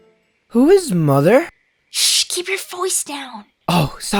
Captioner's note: whispering